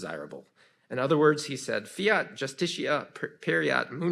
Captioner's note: speaks in foreign language